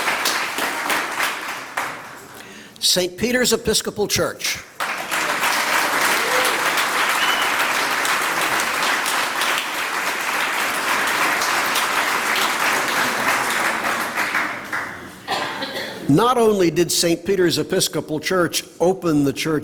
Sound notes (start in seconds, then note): 0.0 applause; 4.7 applause